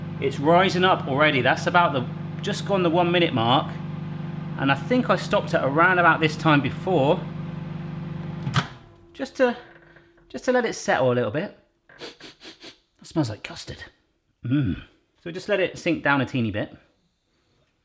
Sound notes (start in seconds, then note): 11.9 sniffs